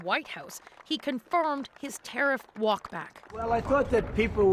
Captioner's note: applause